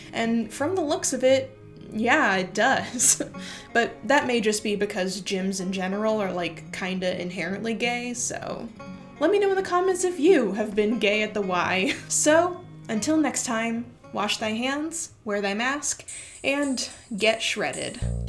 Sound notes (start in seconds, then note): 11.8 laughs